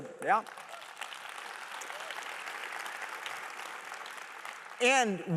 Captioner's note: applause